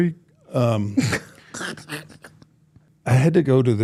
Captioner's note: Michelle laughing